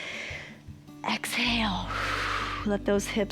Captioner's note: inhales; exhales